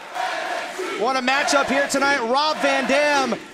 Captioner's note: fans chanting